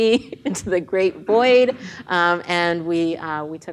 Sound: laughs

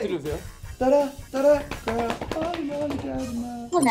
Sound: patting

